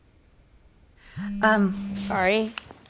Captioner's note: phone vibrating